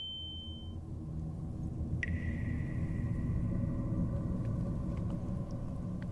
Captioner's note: tetesan air